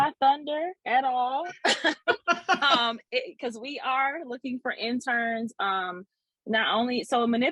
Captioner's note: laughs